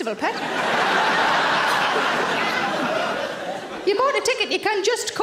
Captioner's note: audience laughing